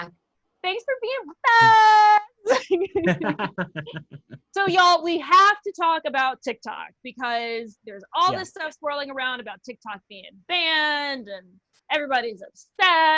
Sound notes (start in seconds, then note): 2.4 laughter